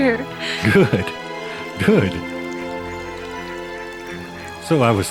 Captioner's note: chuckles